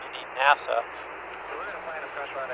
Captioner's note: radio transmission